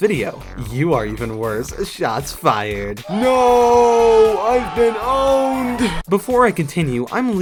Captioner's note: ooohhh